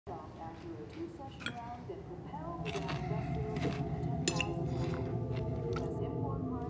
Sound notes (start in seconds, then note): 0.0 chatter on tv; 2.5 suspenseful music playing